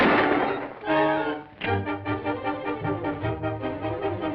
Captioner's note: gun clicks